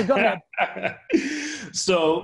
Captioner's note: laughing